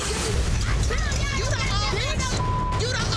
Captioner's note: women yelling; beep